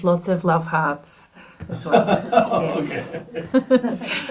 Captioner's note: laughs